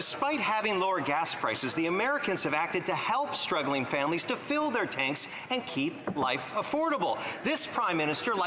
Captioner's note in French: voix de l'interprète